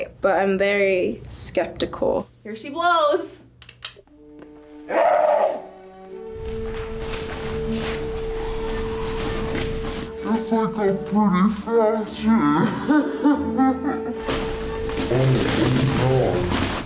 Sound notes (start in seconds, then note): 12.5 laughs